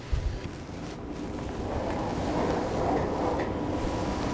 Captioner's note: rustling of curtains